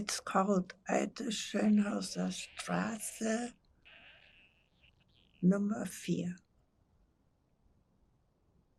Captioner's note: german